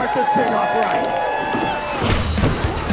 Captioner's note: crowd cheering